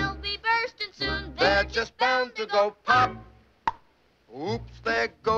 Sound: pops

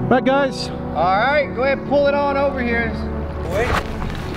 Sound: male Voice

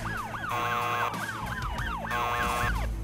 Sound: siren; buzzer

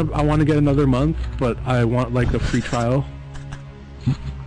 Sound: laughs

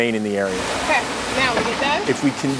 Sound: sound of machine

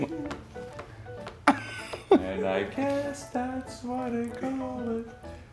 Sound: laugh

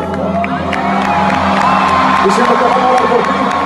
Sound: applaud

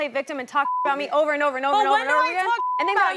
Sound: beep

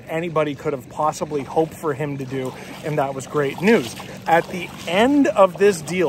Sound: water splashing

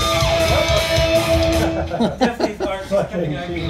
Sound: men laughing

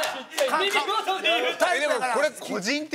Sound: laughs

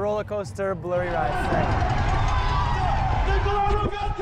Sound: crowd cheering

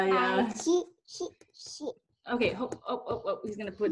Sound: baby jibber jabbing

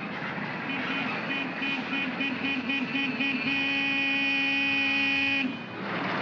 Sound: jeep honks

